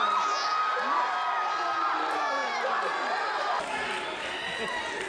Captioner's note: applause